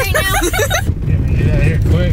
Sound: children laughing

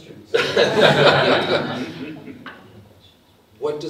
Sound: audience laughs

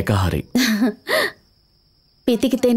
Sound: chuckles

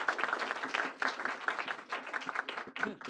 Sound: applause

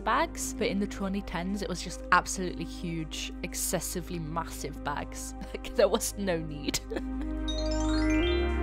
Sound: laughs

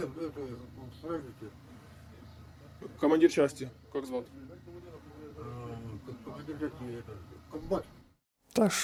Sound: interrogating a POW in Russian

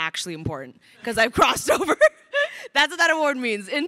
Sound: laughs

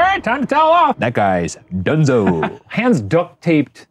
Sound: Shane laughing

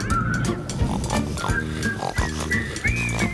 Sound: snoring

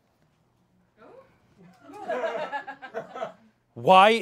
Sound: audience laughing

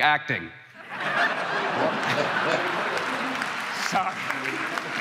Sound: crowd laughing

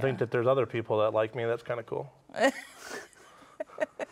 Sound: laugh

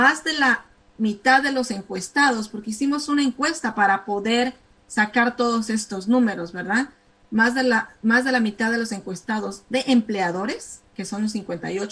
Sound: speaking spanish

